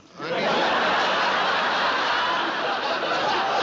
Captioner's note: laughter